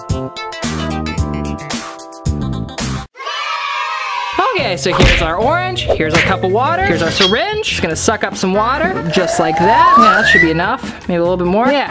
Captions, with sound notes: (cheering) Okay, so here's our orange, here's a cup of water, here's our syringe. Just gonna suck up some water just like that. Yeah, that should be enough, maybe a little bit more.